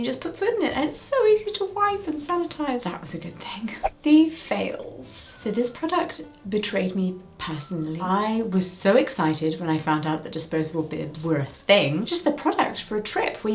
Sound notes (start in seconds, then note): 3.8 screen whooshing